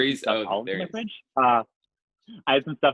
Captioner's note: murmurs